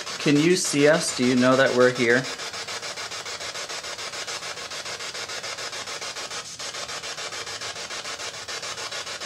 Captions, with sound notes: Can you see us? Do you know that we're here? [STATIC]